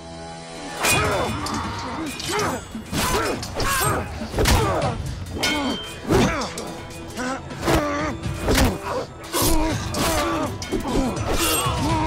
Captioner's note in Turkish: Ateş çıtırtısı sesleri; Vuruşma ve kılıç sesleri